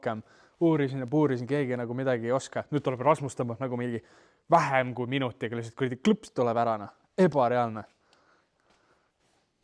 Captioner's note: click